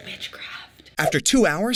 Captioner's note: whispers